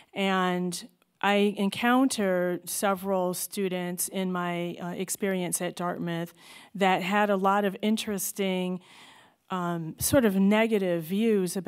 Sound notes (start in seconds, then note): none